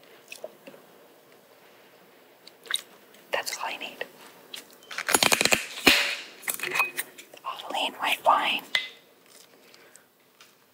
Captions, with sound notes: that's all I need. (bottle opening) Avaline White Wine